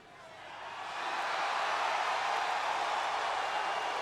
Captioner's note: audience cheering